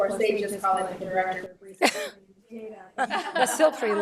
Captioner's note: laughs